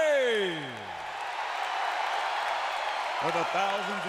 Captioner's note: crowd cheering